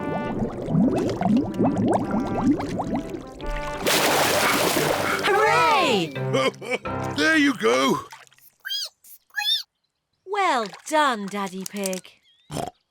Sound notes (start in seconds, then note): 5.1 laughs; 8.8 squeaks